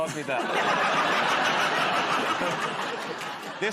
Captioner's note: laughter